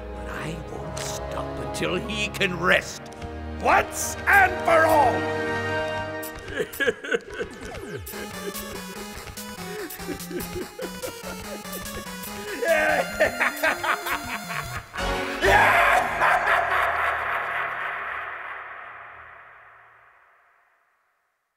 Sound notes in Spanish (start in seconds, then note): 6.7 Lloriqueo; 12.0 Risa maligna